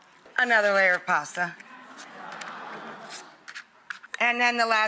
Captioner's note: audience laughs